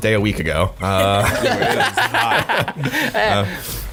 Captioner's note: laughing